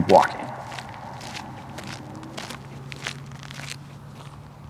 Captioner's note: footsteps; quiet footsteps